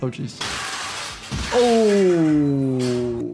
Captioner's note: machine clangs; weights clatter